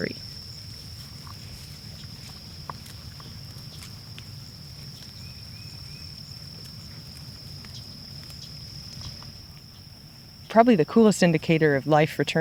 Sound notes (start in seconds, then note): 0.3 crickets chirping; 4.9 birds singing